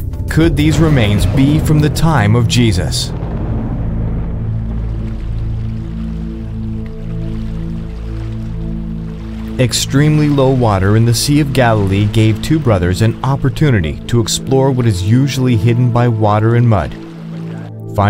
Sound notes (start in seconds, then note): 4.7 gentle music; 4.7 water splashing